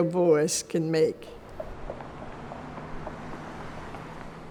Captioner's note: car engines revving